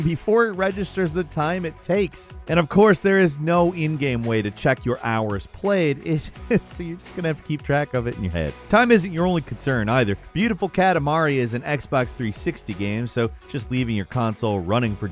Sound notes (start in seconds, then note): 6.2 laughing